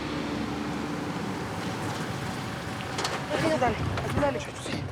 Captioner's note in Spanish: ruido del auto